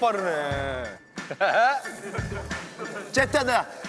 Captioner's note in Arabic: يضحك